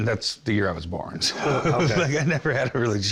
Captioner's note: laughter